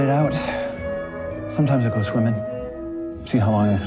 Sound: sighs

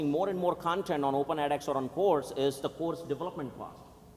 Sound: none

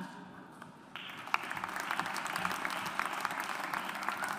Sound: audience applauds

